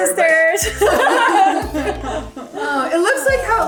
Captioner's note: everyone laughs